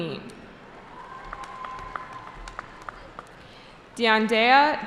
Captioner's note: cheering